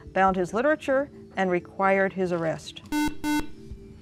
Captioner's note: beeping